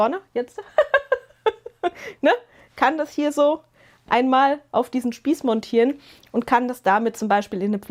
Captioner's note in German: gelächter